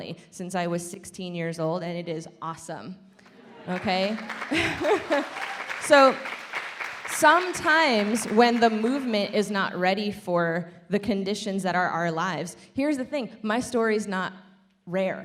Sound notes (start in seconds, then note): 3.4 laughing; 3.6 audience applaud